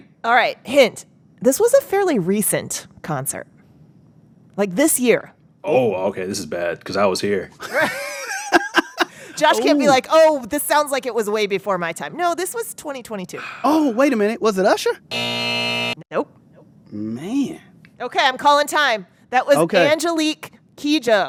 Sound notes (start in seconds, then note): 7.6 laughter; 15.1 soundbite of buzzer